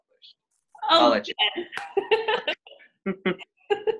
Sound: laughs

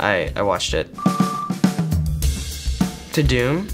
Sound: beeps

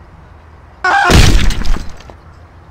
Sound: splat

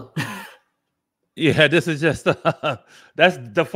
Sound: laughs

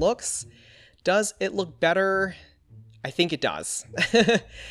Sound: laughs

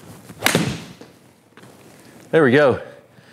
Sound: club thwacks ball

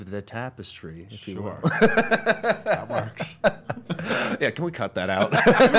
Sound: laughs

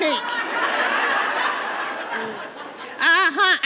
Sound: audience laughs

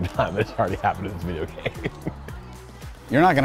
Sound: laughs

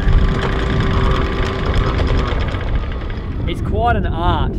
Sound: yacht engine roars

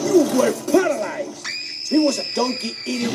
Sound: shrieks like a horror movie victim

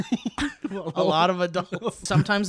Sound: laughs

